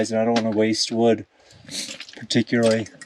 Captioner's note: none